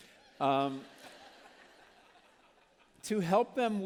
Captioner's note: laughter